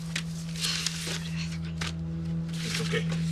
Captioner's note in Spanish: Habla entre dientes